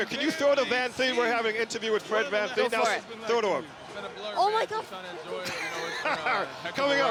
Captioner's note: laughter